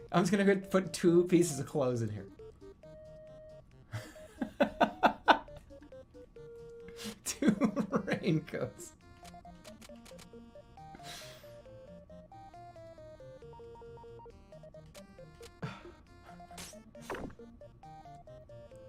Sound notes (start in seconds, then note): 4.0 laughing; 10.3 laughing; 15.6 exhales